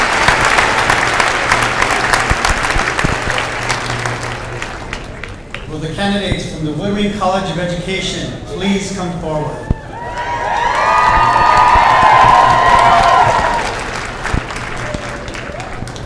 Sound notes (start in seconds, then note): 9.7 cheers and applause